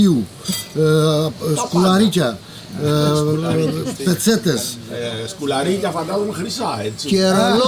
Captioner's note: laughs